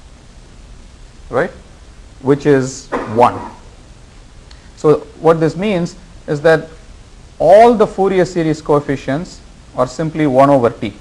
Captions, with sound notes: Right? Which is one. (student coughs) So what this means is that all the Fourier series coefficients are simply one over t.